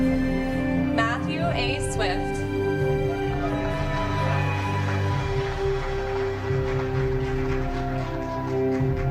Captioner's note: applause